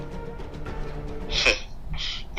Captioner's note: exhale in disappointment